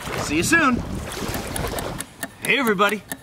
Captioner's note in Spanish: clock ticking